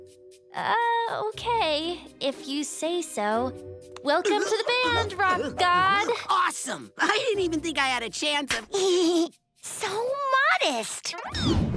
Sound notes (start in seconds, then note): 4.2 mumbling nervously; 8.8 laughs